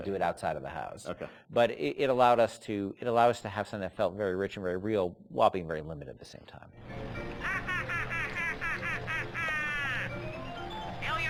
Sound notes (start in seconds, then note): 7.4 laughter